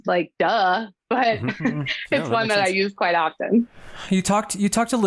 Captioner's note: laughing